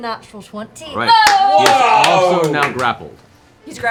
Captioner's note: cheering